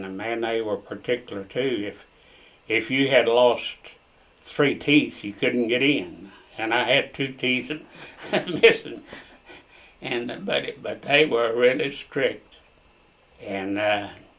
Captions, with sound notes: Man, they were particular, too. If you had lost three teeth, you couldn’t get in, and I had two teeth missing. (Laughs) They were really strict.